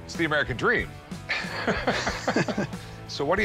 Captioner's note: chuckling